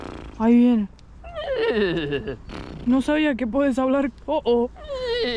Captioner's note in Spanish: Sonido de caballo; Sonido de caballo; Sonido de caballo